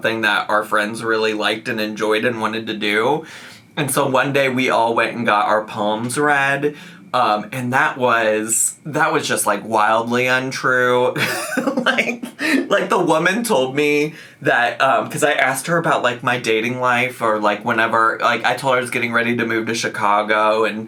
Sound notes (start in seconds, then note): 11.1 laughs